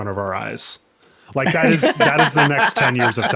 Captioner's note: laughing